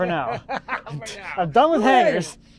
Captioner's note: laughs